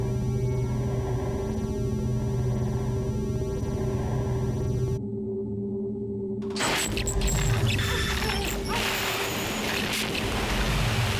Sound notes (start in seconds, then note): 6.6 computerized squealing